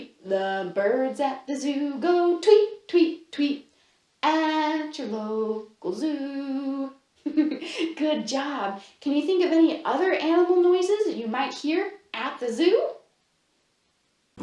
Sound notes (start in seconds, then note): 7.2 laughs